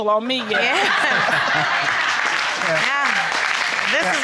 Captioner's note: laughter